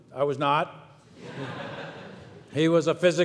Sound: audience laughs

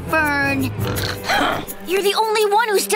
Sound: groaning

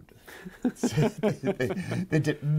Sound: both laughing

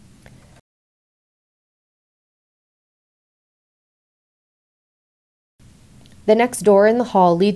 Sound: no speech present

